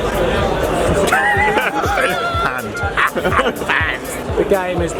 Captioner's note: laughing